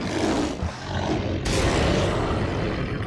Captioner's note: growling; exploding